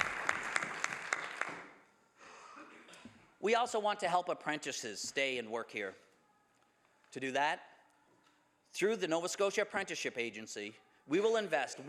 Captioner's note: some Applause